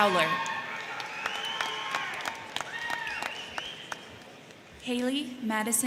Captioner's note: crowd cheering; crowd clapping